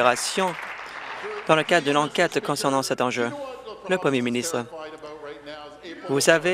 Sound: applause

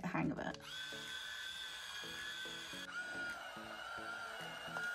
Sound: curlers whirring

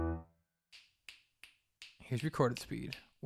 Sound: fingers snap

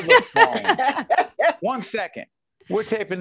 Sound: laughing

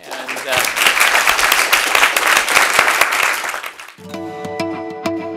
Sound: applause

